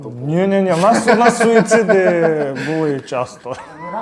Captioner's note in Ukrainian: сміх